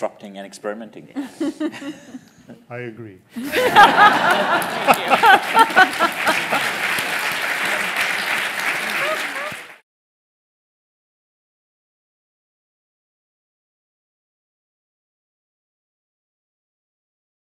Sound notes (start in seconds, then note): 3.4 laughter; 5.3 applause